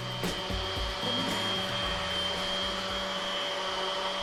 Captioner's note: machinery humming